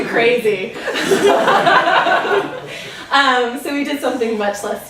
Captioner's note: laughter